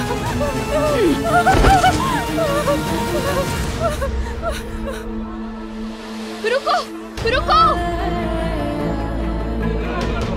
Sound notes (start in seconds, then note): 0.1 crying; 8.2 dramatic music